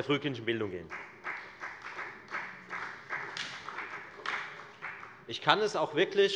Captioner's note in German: Beifall bei der FDP und bei Abgeordneten der SPD